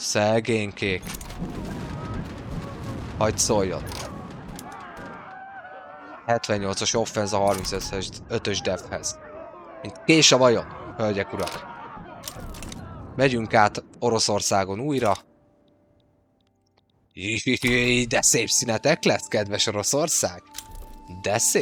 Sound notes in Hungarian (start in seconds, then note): 3.4 sikítás